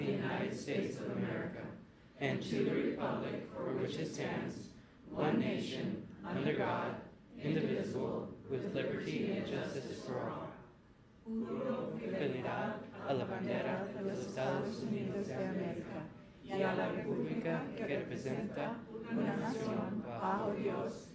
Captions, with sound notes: of the United States of America, and to the republic for which it stands, one nation, under God, indivisible, with liberty and justice for all. (speaking in foreign language)